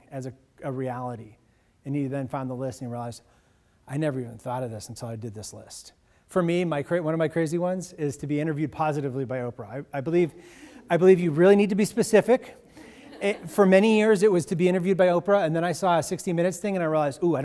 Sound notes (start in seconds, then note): 12.7 audiences laughs